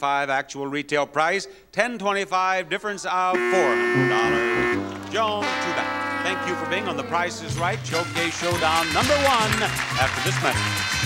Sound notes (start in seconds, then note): 3.3 buzzer sounds; 10.8 crowd clapping